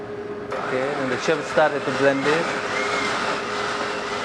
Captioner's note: voiceover